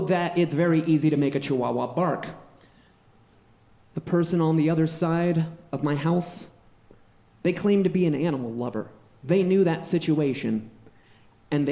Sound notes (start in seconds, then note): none